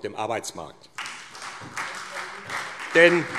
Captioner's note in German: Beifall SPD